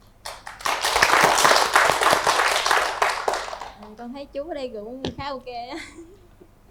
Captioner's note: applause